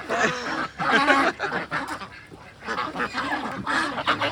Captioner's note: laughing